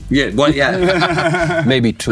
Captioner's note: chuckling